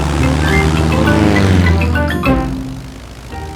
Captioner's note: plane engine revving